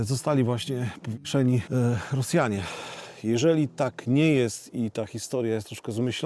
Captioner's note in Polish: westchnienie